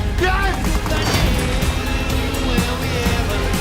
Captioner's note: sword clanging